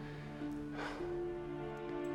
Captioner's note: sighs